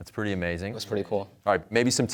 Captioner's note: murmurs